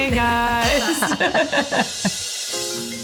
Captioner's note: all laughing